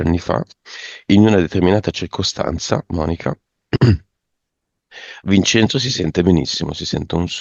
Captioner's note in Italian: schiarire la voce